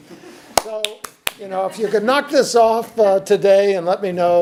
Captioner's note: audience chuckles; smacks hands